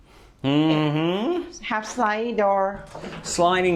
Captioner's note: sliding doors